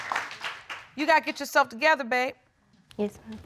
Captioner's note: audience clapping